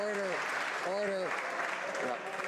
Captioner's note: applause